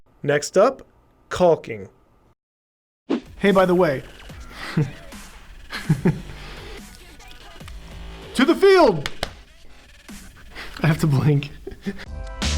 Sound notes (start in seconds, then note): 4.1 laughs; 12.3 upbeat music